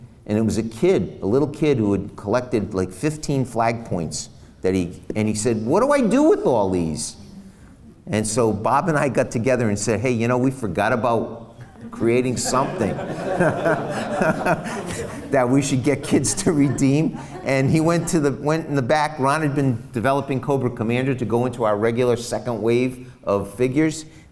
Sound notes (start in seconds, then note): 14.6 laughs